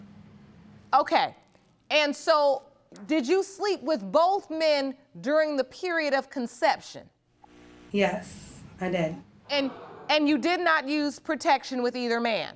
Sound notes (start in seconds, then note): 9.6 audience gasps